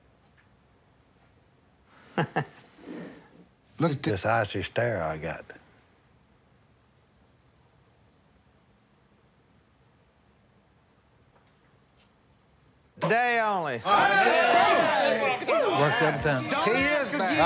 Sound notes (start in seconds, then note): 13.8 cheering